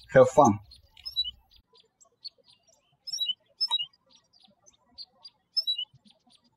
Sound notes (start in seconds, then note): 1.8 birds chirping